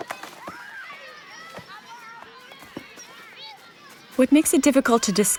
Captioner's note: children shouting and laughing in distance